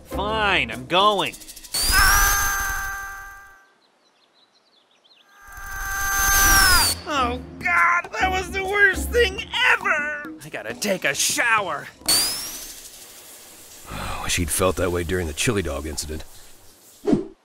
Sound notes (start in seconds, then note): 1.9 Sonic yells; 5.4 Sonic yells; 12.3 water running; 13.8 sighs